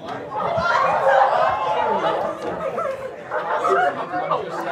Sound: class cheering

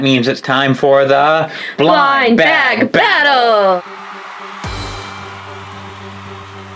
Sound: crowd Cheers

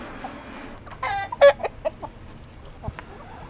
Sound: chickens clucking excitedly

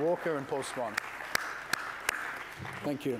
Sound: applause

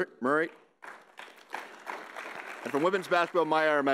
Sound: audience applauding

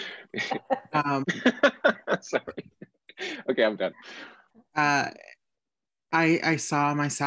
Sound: laughter

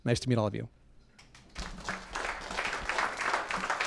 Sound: applause

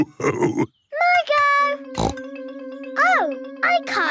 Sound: snorts

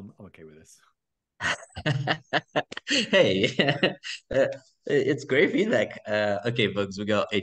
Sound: laughing

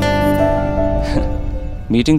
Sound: chuckles

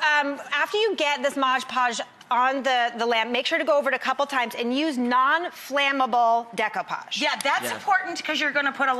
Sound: none

